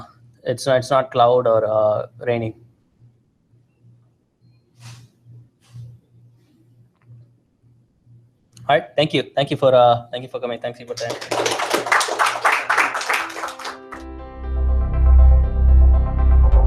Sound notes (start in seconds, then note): 10.9 applause; 12.8 theme music playing